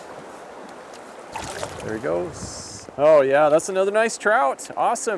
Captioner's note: splash